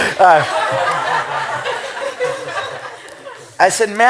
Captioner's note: laughter